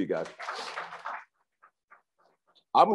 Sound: crowd applauds

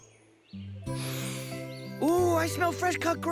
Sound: inhaling deeply

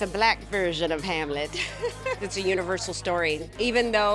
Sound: laughs

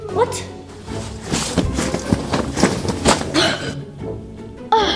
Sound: air whooshing

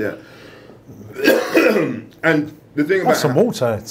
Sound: coughs

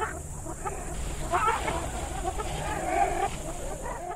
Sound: jungle sounds

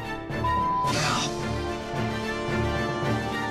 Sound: beep; dramatic music

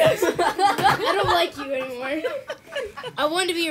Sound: laughter

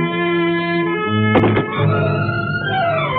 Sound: door closes

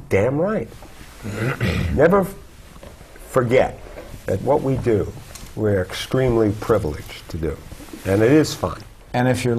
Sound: cough

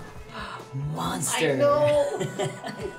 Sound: laughter

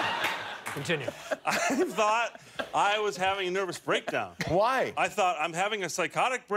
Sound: laughter

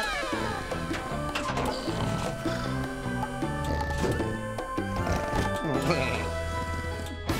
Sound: snoring

